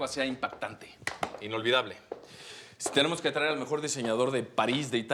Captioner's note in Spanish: Palmadas